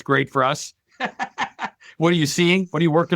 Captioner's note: laughing